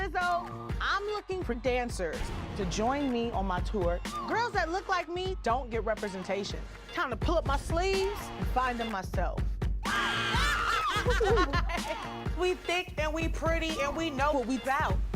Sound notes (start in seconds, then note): 9.8 woman screams; 10.3 laughs